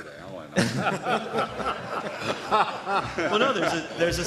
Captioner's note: laughter